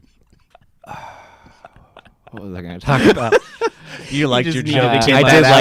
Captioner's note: sighs; laughs